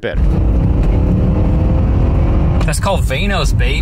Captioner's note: engine revving